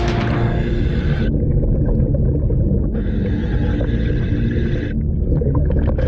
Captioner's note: water bubbling; mouthpiece hissing